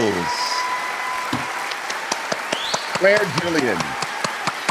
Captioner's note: cheering and clapping